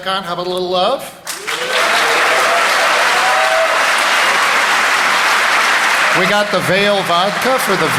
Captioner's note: applause